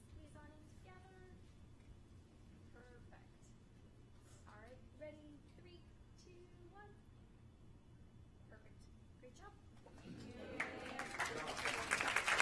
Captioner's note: applause